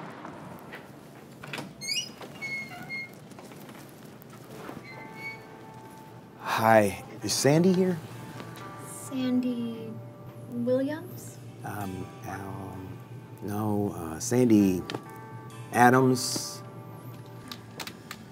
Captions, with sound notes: (door hinges squeak) - Hi, is Sandy here? - Sandy Williams? - No. Sandy Adams?